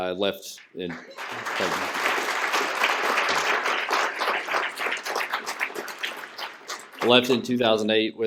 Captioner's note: applause